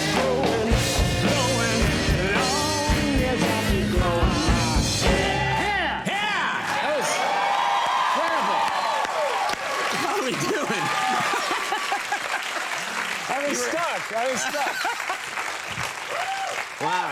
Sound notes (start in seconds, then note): 11.1 Conan laughs